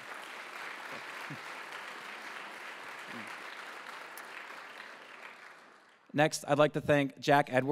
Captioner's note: applause